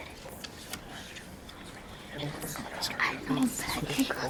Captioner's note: students whisper